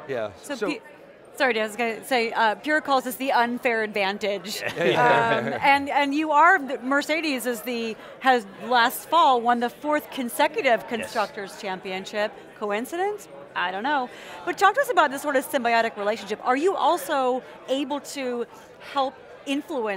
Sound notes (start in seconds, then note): 4.5 laughter